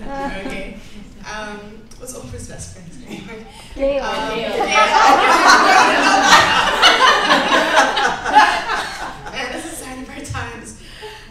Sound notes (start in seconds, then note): 0.8 laughs; 4.6 laughter